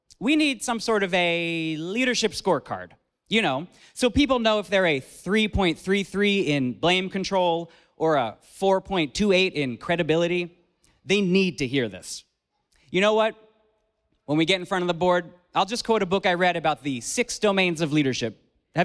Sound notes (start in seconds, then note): none